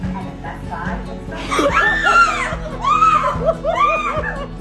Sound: screams

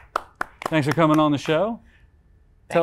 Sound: claps hands

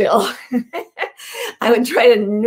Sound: laughing

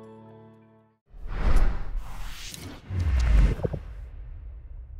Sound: logo swooshing

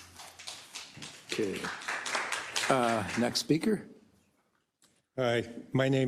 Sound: applause

